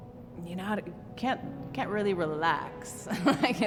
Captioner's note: chuckles